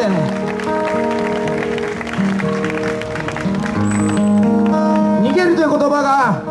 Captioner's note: audience applause